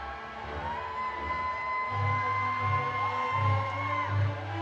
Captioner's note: audience cheering